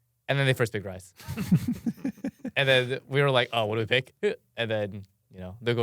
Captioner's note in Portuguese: risos